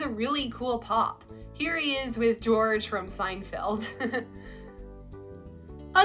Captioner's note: laughs